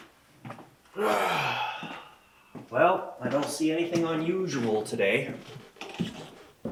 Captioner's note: sighs